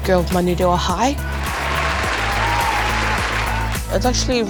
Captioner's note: crowd cheers